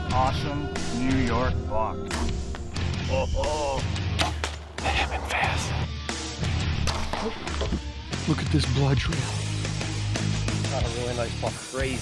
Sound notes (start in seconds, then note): 3.3 hunter chuckles